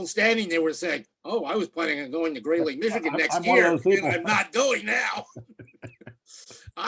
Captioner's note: laughs